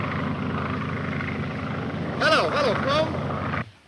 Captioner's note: airplane buzzing